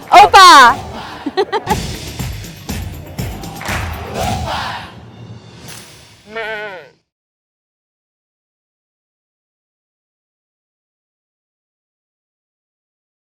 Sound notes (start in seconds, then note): 1.1 laughter; 6.2 goat bleating